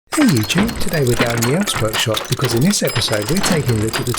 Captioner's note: workshop noise